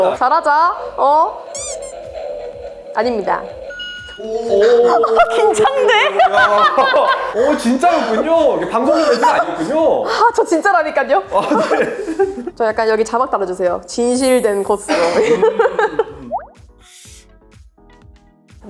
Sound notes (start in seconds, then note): 6.5 laughs; 11.4 laughs